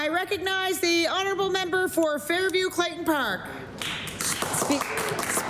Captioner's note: applause